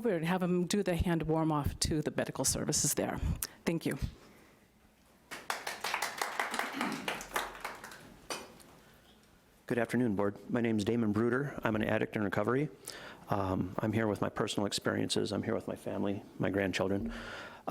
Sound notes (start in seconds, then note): 5.3 audience applauding lightly